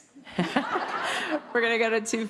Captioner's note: audience laughing